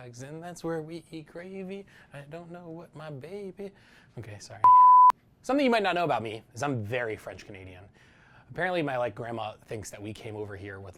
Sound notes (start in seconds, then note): 4.6 beep